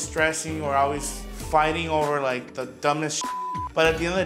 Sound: beep

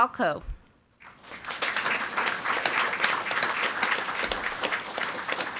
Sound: audience applauding

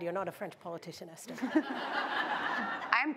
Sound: laughter

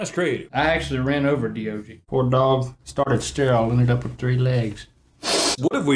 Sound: sniff

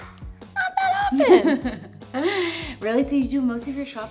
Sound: laughs

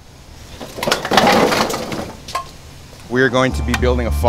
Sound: wood clanking

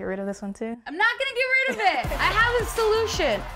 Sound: crowd cheering

